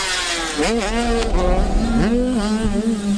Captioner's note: whoosh sfx